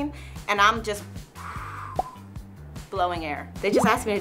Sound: blowing sound

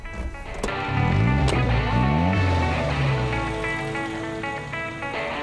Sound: motor revving

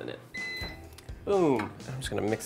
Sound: microwave beeping

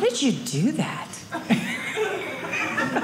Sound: audience laughing

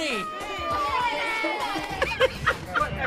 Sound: light cheering; light giggling

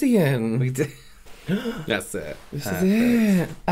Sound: more Gasping

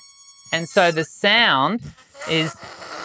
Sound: balloon wheezing

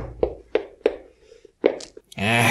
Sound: figure thumping

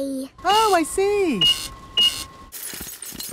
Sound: cash register beeping

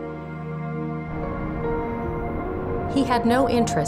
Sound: distant city sounds

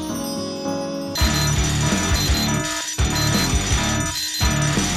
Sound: alarm blaring

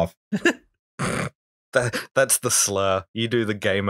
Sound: laughter

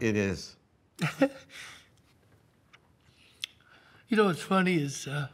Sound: Tony softly crying

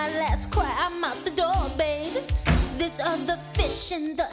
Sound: door slamming

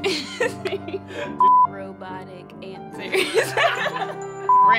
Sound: laughing; laughing

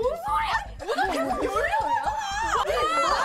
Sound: frustrated

